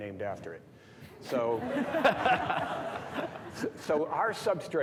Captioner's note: all laughing